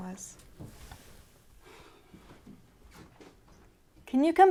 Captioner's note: Bryan sighs